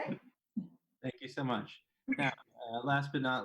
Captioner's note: laughs